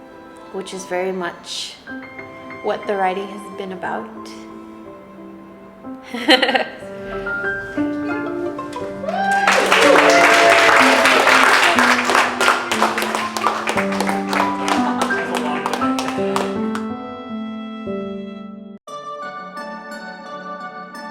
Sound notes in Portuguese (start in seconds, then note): 9.0 Aplausos